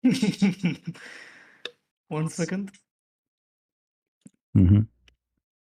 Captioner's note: laughter